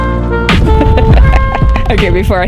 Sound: laughing

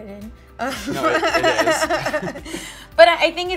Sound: Michelle laughs

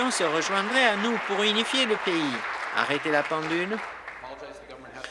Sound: applause

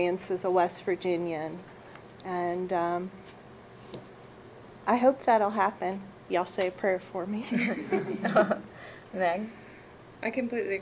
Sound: laughter

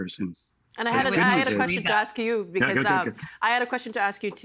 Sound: overlapping chatter

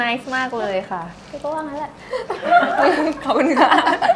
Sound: laughing

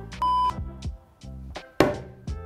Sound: screen beeping; cupboard door banging

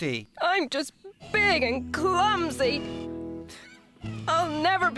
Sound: tearfully

